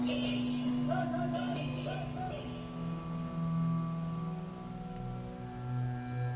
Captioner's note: chanting